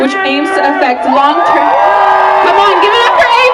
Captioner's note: applause